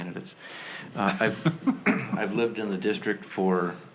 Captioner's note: board laughs